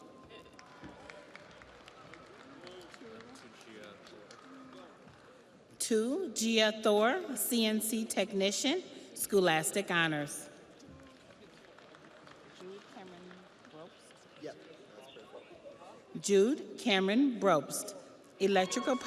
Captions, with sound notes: Richard A. Hikles, Truck Driving, Technical Diploma. (audience applauds) Tu Giathor, CNC technician, Scholastic Honors. (audience applauds)